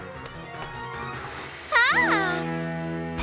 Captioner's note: shrieks